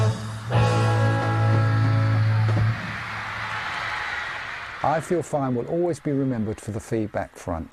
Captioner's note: band closing and crowd cheering